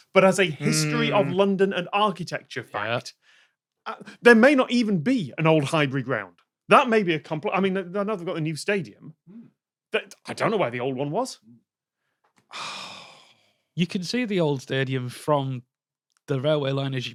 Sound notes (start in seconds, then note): 12.4 sighs